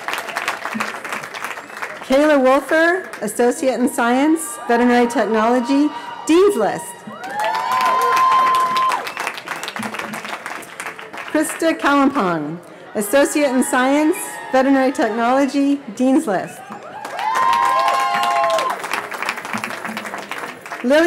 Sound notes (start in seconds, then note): 8.2 cheering; 16.5 cheering